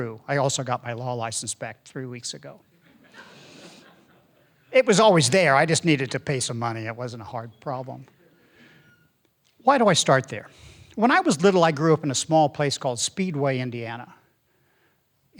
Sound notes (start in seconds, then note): 2.7 audience laughing